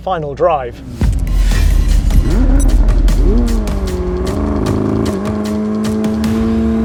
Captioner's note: engine revving; dynamic upbeat music